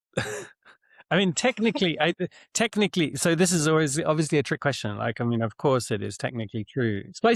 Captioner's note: chuckles